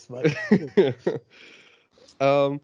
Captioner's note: laughs